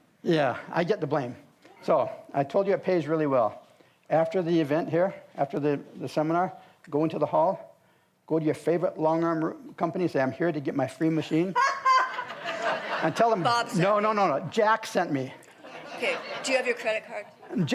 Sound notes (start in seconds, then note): 11.5 all laugh